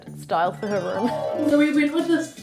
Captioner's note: magical chimes